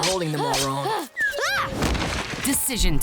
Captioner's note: yelling